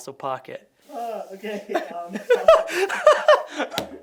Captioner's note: laughing